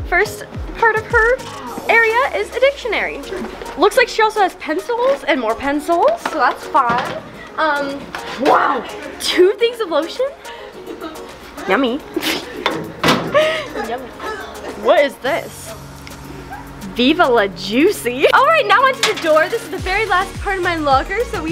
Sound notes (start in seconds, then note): 10.2 giggles